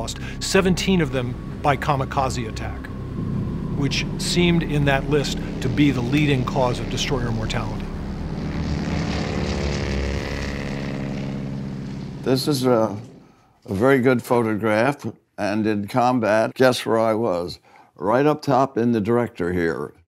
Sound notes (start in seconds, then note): 8.7 plane propeller whrrrr